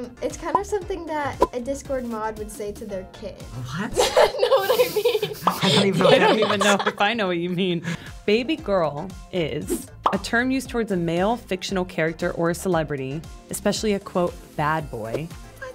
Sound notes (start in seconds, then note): 1.4 bubble pops; 3.9 laughs; 6.1 bubble pops; 10.0 bubble pops